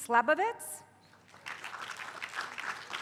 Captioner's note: applause